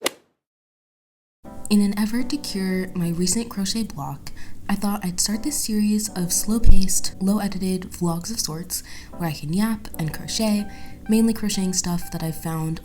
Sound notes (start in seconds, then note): 0.0 golf hit sound effect; 1.4 voiceover